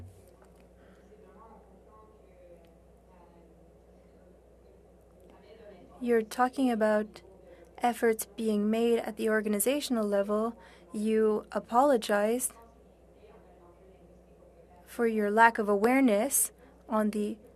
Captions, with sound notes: SERVICE IN BOTH OFFICIAL [ Speaking French ] FIN BACK YOU'RE TALKING ABOUT THE EFFORTS BEING MADE AT THE